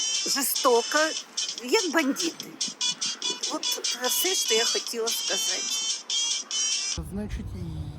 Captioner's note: phone ring